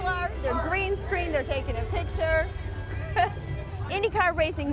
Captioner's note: laughs